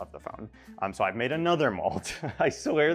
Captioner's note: chuckles